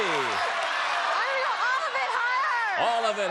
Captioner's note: applause